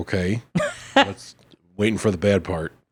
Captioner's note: laughing